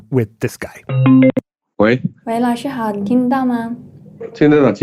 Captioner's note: speaking Mandarin Chinese